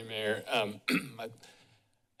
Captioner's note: clears throat